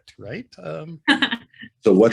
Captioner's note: laughs